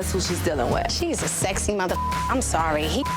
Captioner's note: beep